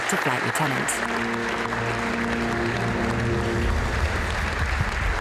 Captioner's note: audience applauding